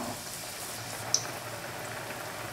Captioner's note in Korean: 거품 끓어오르는 소리